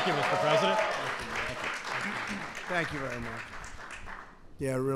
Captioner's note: applause